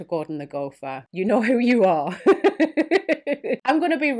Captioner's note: laughs